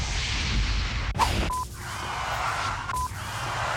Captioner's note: sizzles; screeching